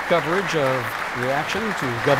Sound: applause

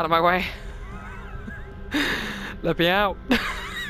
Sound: laughs

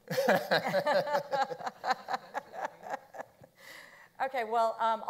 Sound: panelists laughing

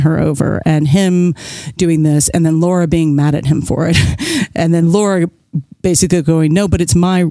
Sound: guffaw

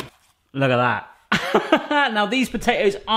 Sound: laughing

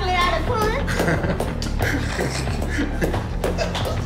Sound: laughing

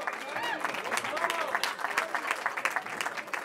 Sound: cheering

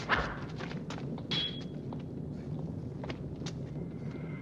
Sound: banging

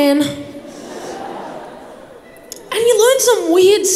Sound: crowd laughs

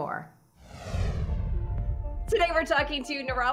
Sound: air whooshing

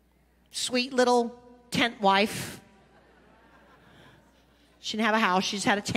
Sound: congregation laughing

